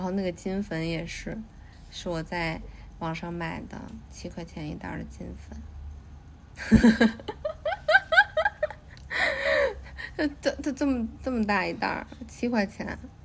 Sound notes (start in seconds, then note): 6.6 chuckles